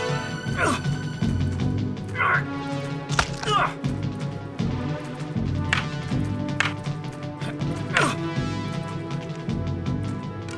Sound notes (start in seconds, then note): 0.4 leg injury sound; 0.5 groaning and grunting; 5.5 groaning and grunting; 5.6 sticks banging together